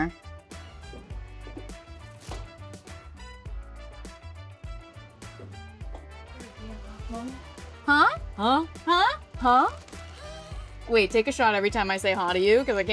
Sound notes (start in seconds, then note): 0.3 light upbeat music; 8.8 laughs